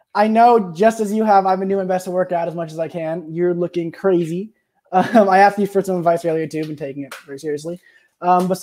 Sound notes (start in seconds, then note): 4.9 chuckles